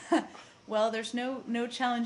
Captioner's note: laughter